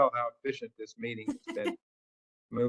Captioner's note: laugh